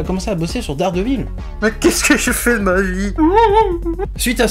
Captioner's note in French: pleurs